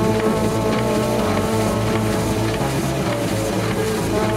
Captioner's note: printing sounds